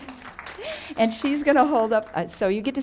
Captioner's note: audience applauds